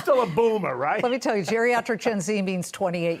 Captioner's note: laughter